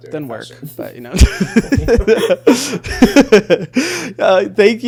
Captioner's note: laughing